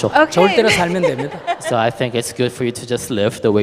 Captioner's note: questioner laughter